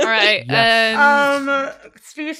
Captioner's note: laughing; laughs